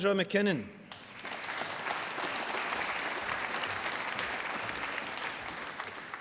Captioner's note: applause